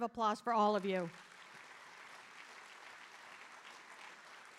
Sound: audience applauding

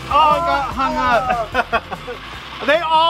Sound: laughs

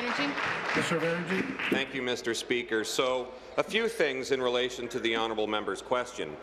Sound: applause

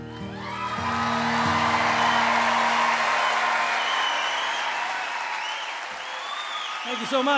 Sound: crowd cheers

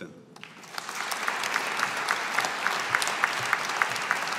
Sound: audience applauding

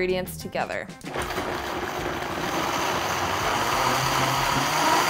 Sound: blender machine noise

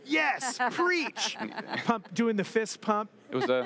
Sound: laughs

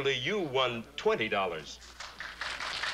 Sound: applause

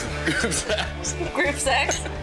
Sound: laughs

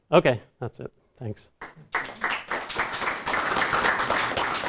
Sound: audience applauds

